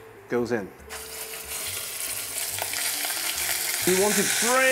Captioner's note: sizzling sound